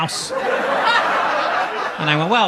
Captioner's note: audience laughs